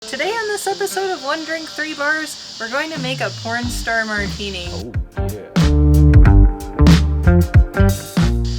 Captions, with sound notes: Today on this episode of one drink three bars, we're going to make a porn star martini. (deep male voice) ooooohhhh YEAH!